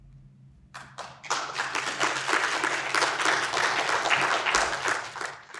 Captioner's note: audience applauding